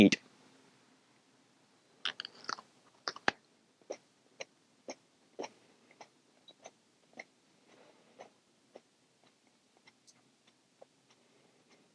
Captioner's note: chewing